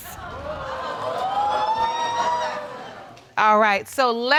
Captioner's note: audience exclaiming